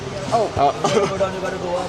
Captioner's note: laughter